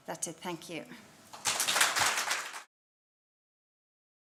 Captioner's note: applause